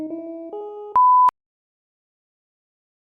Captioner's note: beeps